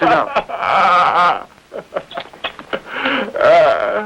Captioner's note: crying